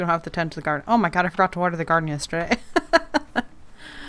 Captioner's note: laughs